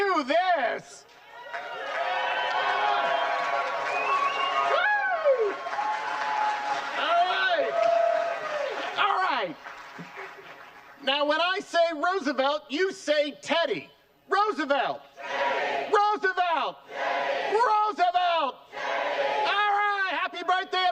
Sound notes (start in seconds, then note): 10.3 cheering